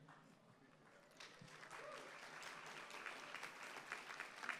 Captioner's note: applause